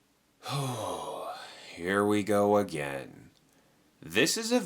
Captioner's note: sighs